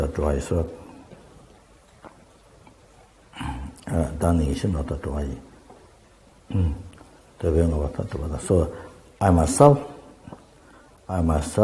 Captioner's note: tibetan